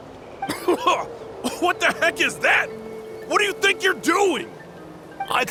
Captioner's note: coughing